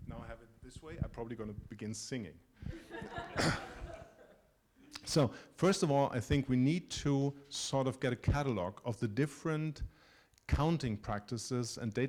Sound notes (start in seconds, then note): 2.6 laughter